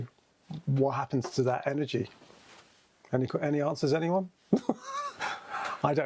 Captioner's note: laughs